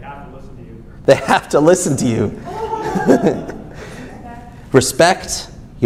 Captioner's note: chuckles